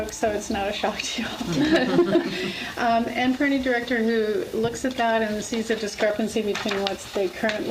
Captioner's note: laughs